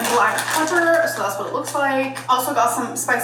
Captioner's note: paper rustling